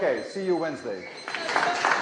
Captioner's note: laughter; applause